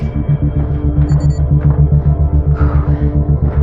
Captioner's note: beeeepingng